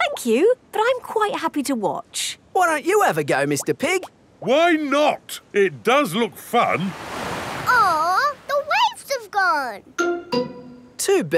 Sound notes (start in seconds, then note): none